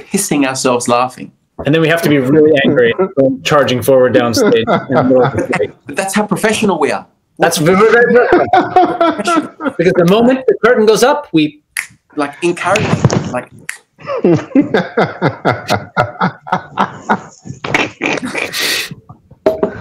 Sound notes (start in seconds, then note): 14.1 hearty laughter, snorting; 15.0 snaps